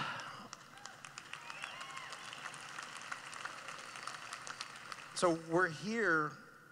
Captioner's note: cheering